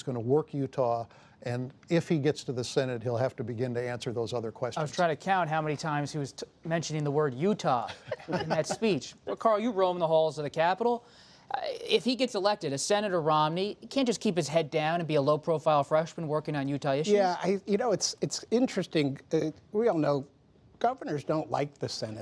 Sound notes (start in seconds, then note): 7.8 laughter